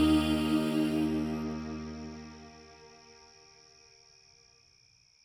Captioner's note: crickets chirping